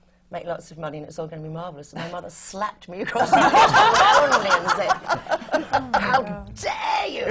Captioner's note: laughter